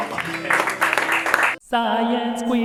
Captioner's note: applause